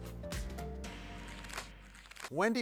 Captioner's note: paper rustles